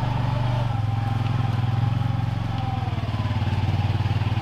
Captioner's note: engine humming